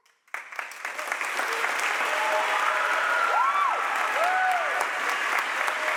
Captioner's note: audience applauds and cheers